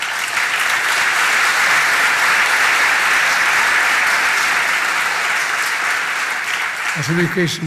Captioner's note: applause